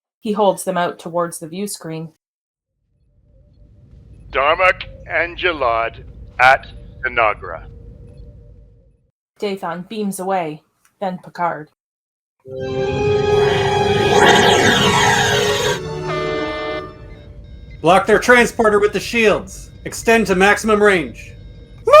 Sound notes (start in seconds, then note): 13.2 transporter beam